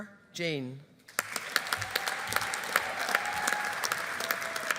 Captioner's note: audience applauding